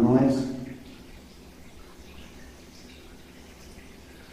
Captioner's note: water dripping